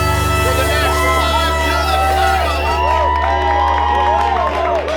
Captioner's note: crowd celebrating